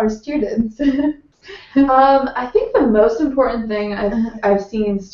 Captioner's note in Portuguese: risos